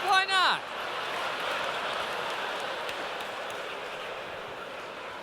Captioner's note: laughter